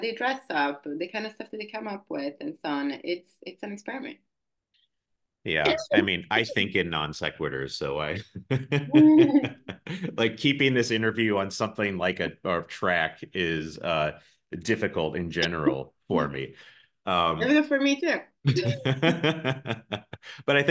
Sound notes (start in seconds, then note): 8.2 polite laughs; 18.4 both laugh